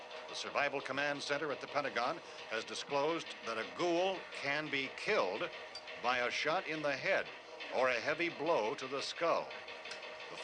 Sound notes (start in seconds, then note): none